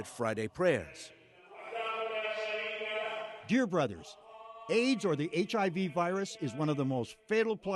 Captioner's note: through translator